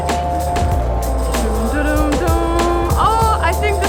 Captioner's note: humming